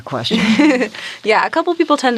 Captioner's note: giggles